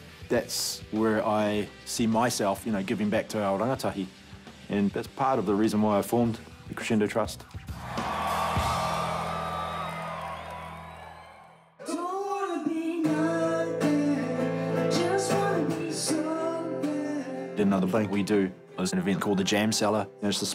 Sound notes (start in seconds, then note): 7.8 crowd cheering; 11.8 smooth music playing